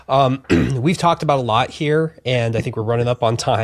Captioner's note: clears throat